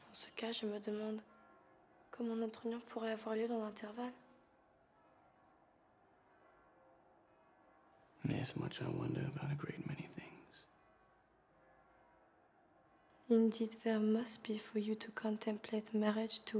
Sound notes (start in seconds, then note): 0.1 speaks in foreign language; 5.1 distant bell tolling